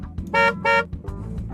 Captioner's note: honk!!